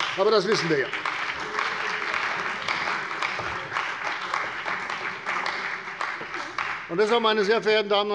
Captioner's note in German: Beifall bei der CDU und dem BÜNDNIS 90/DIE GRÜNEN